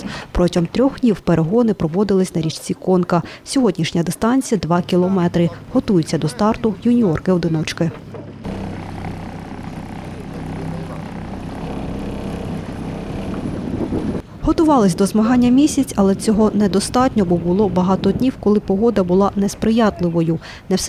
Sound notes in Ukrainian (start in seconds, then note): 8.1 звук двигуна на човні; 8.1 шум вітру